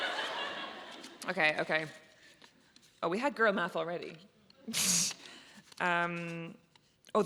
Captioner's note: audience laughs; laughs